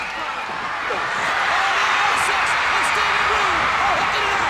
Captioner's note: crowd cheers